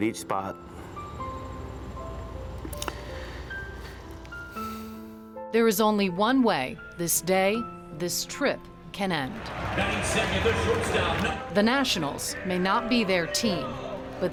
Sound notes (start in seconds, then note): 4.3 sighs